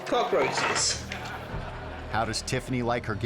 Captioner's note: suspenseful music; audience laughing